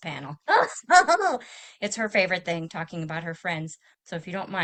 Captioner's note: chuckles